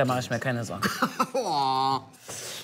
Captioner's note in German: Lachen